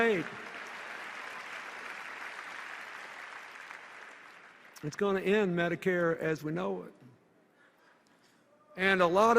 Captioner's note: applause